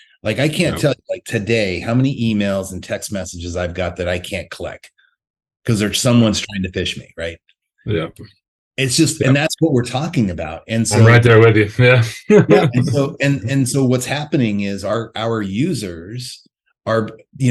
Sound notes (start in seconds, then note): 11.8 laughs